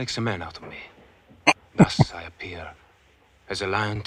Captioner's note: chuckling